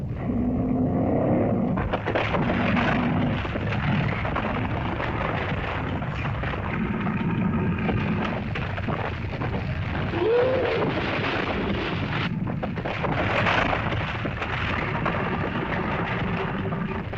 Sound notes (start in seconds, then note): 0.1 lizard growls; 2.0 rumbling sound; 2.0 splitting sound; 10.1 lizard bellows; 12.2 earth rumbles